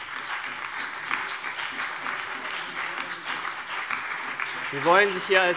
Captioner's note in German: Beifall CDU, BÜNDNIS 90/DIE GRÜNEN, SPD und DIE LINKE